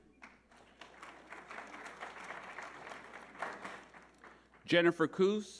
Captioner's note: audience applauding